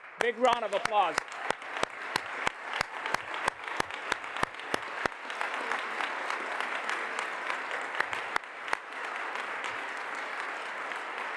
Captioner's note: applause